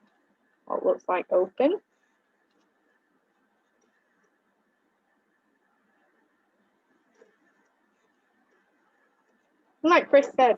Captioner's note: silence